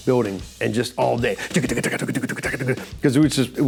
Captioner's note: imitates percussion sounds